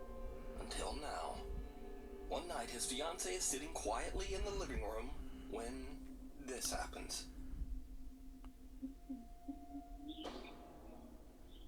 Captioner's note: weird humming 👀